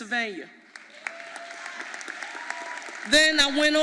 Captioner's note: audience applauding